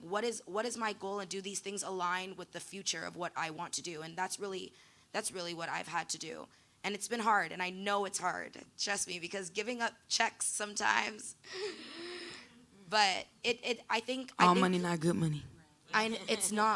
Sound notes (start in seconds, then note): 11.5 gasping